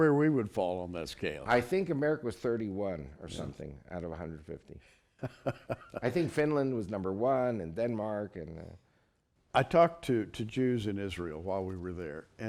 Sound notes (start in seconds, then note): 5.1 laughter